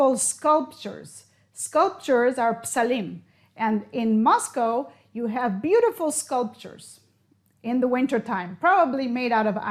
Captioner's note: in Hebrew